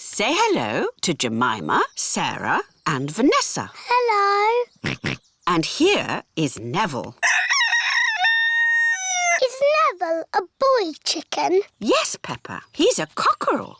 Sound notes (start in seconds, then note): 4.8 george oinks; 7.2 rooster crows